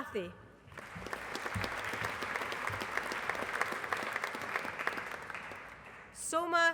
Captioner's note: applause